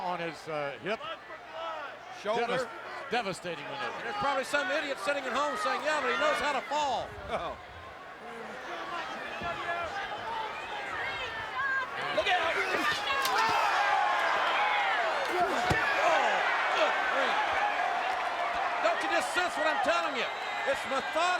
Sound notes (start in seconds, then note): 8.2 crowd chattering